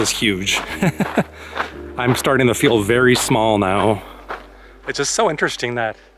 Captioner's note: laughter